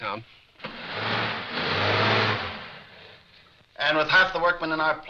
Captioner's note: engine revving